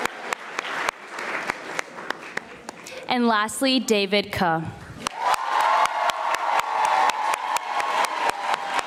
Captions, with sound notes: and lastly, David Khu. (audience applauding)